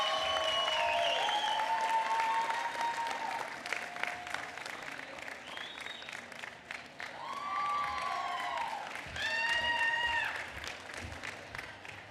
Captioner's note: applause